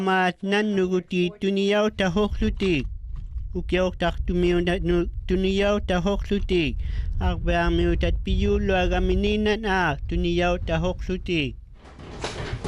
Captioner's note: speaking inuktitut